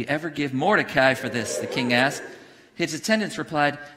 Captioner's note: congregation cheers